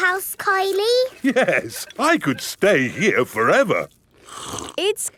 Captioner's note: slurps